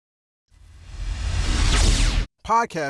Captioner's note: electronic whoosh